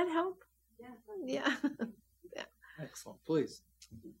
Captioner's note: laughs